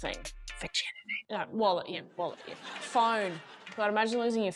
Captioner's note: whispering